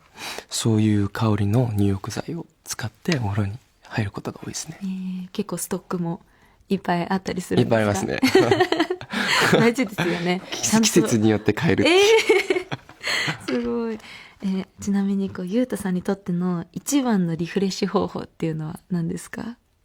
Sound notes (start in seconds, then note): 7.6 laughs